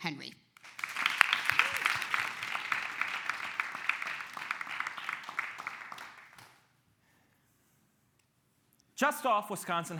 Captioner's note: clapping